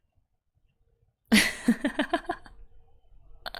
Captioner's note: laughs